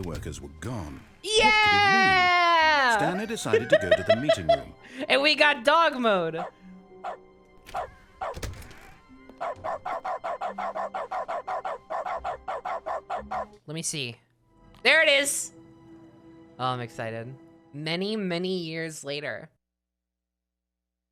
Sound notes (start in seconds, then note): 3.5 laughs; 7.6 dog barking, door closing, opening; 9.4 rapidly pressing the button the makes the dog bark